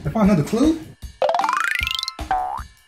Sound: xylophone sound effect; boing sound effect

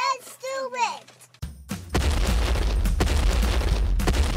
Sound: stomping noise

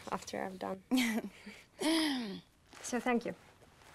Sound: laughing

